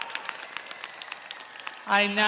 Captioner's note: audience applauding; audience cheering